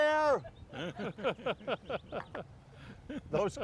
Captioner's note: laughing